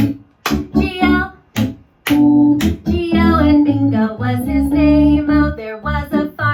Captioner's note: clap, clap, clap